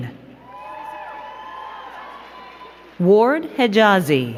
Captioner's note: crowd cheering and clapping